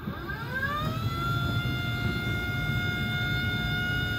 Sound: desk motor whirring

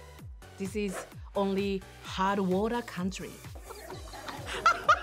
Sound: people in background laughing; laughs

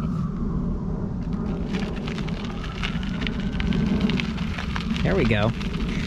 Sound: siren wailing; gravel crunching

